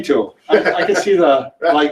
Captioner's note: laughs